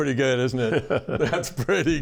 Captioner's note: laughter